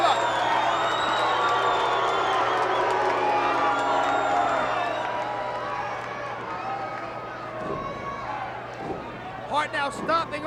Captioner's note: applause